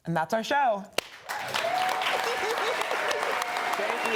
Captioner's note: audience cheering